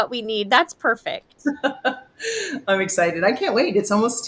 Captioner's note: laughs